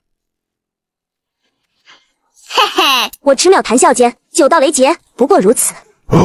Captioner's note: chuckles